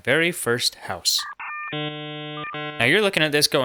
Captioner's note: dial Tone